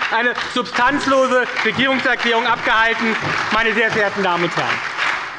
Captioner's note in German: Beifall bei der SPD und der FDP